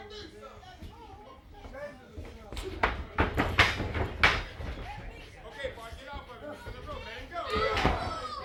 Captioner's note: crowd chatter